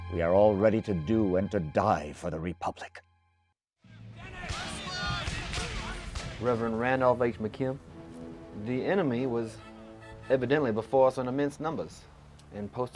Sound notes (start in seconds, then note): 4.5 shouting; 6.7 voiceover